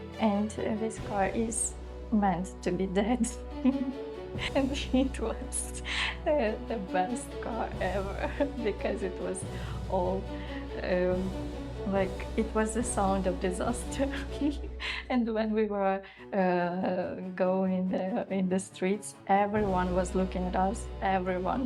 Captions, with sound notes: And this car is meant to be dead. [Laughter] And it was the best car ever, because it was all... erm... Like it was the sound of disaster. And when we were going in the streets, everyone was looking at us, everyone,